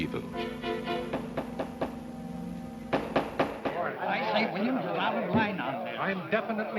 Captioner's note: banging gave, angry conversing